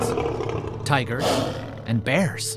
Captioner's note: tiger roars; lion roars